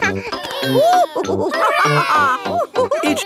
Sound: madam gazelle laughing; giggles; children straining

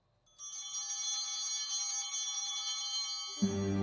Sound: bell ringing

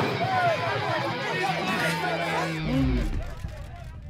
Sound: background commotion

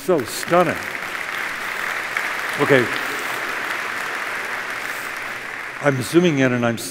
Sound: applause

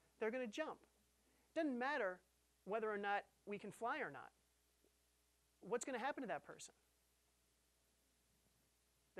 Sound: none

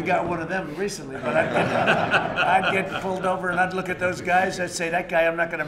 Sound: laughter

